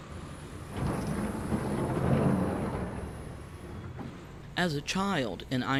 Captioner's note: furnace bellowing, quarry rustling